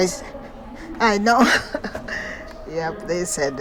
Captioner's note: laughs